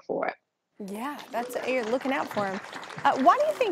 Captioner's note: applause